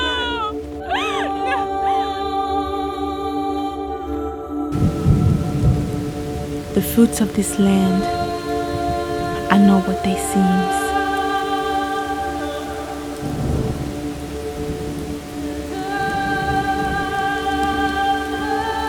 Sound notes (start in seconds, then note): 3.2 ethereal music; 5.5 rain falling